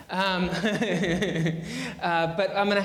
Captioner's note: laughing